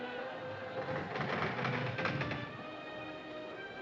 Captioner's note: Navio rangendo